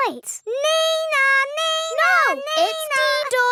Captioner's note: imitates siren